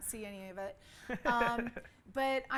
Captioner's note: laughs